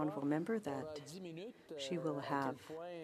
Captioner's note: speaking French